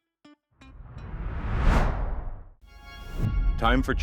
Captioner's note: whoosh